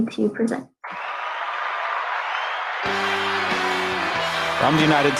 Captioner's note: applause